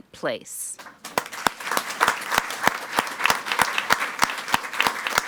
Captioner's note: all applauding